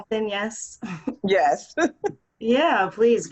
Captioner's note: laughs